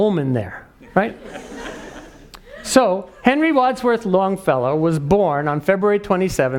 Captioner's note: laugh